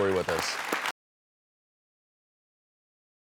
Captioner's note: applause